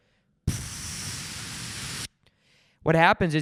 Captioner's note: blows into mic